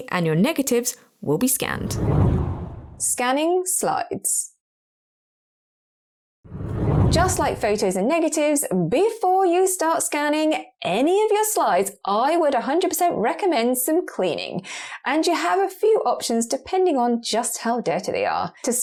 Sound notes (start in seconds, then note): 1.7 video effect whooshes; 6.4 video effect whooshes